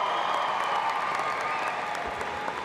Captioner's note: applause